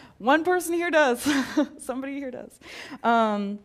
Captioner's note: laugh